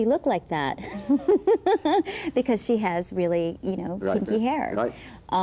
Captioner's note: laughter